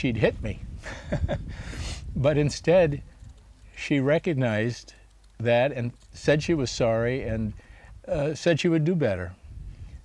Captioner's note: laughs